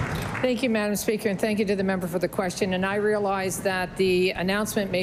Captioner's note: applause